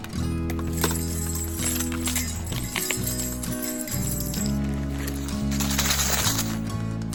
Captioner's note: bells jingling